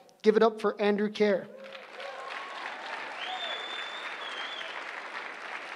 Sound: applause

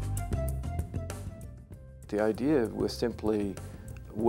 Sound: voiceover

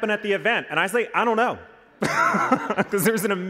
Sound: laughs

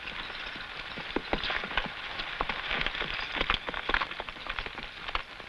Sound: horse hooves pattering

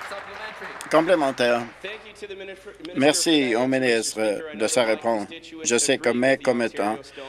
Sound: applause

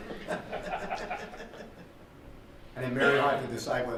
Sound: laughter

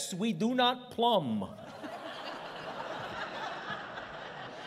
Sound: laughter

